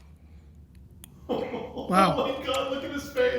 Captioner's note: laughing